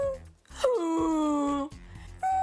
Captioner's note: makes silly noises; groans